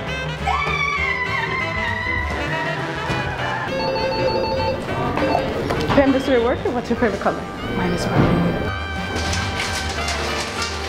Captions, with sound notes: [JOYFUL SCREAMING] [PHONE RINGS] >>Pam the Student Worker, what's your favorite color? [STAGE WHISPER] Mine is maroon!